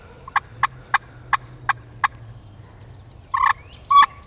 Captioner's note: turkey call